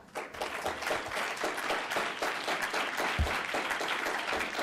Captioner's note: audience applauds